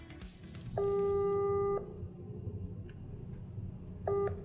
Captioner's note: phone beeping